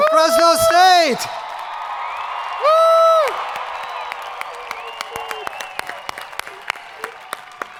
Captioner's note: hands clapping; people cheering